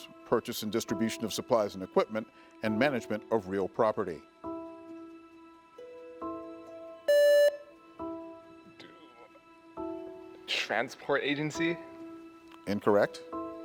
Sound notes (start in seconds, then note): 7.1 contestant beeping